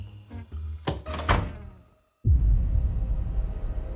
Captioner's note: door closes; suspenseful music